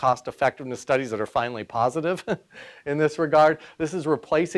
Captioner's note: chuckles